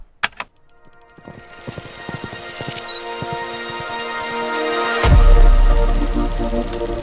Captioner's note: film projector whirring; ethereal music